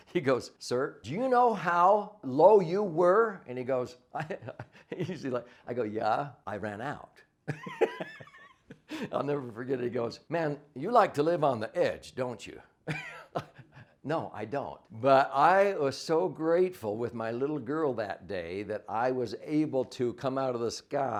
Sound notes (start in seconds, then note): 7.4 laughs